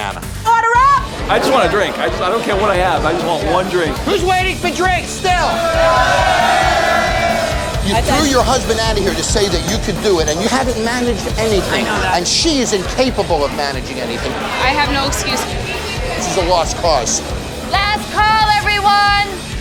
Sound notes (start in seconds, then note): 5.2 cheers